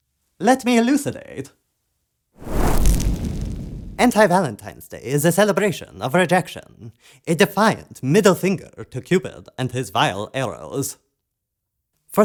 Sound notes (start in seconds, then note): 2.4 flames